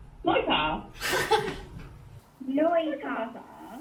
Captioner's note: laughs